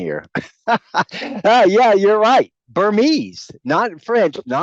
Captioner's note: laughs